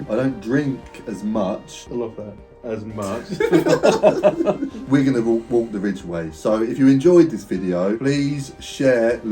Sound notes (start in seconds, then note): 3.0 both laughing